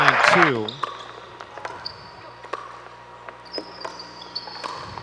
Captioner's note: ball bouncing